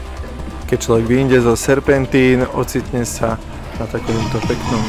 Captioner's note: upbeat music; bike rumbling